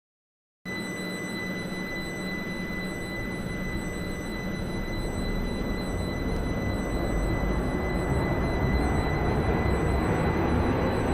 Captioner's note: train accelerating